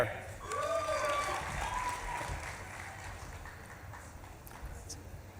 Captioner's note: audience claps and cheers